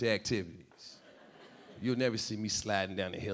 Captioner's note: audience laughing